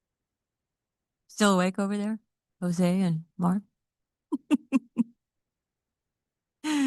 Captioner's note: laughs